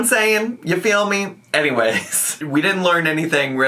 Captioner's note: laughing